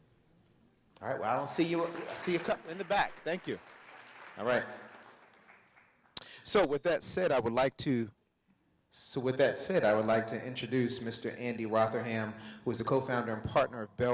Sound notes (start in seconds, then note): 4.8 audience applauds